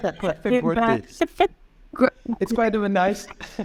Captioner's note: laughing